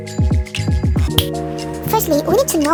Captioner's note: finger snap sound